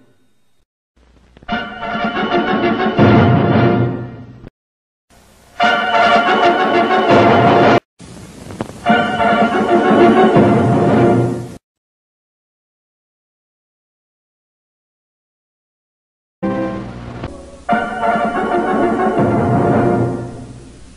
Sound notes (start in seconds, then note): 12.3 silence; 16.4 retro fanfares resuming